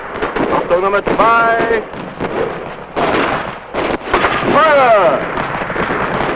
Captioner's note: explosion booming; explosions booming; guns blasting; speaking in foreign language